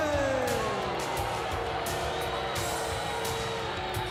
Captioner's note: crowd cheering